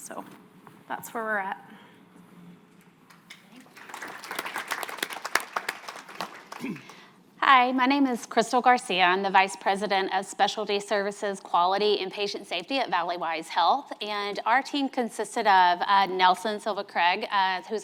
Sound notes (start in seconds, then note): 3.3 audience applauding